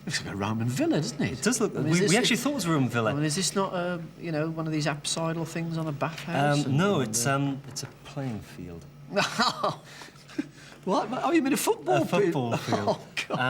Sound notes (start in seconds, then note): 9.1 laughing